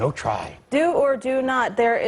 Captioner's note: robotically